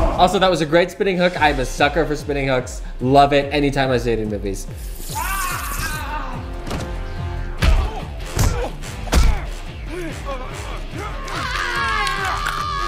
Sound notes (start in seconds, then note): 5.2 guard groaning in pain; 7.6 guard shrieking; 7.6 tense music